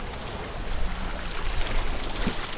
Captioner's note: sound of rushing water